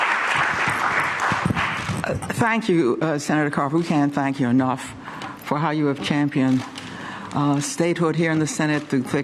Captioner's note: applause